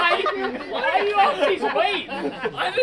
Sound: laughter

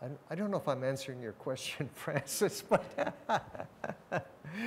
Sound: laughs

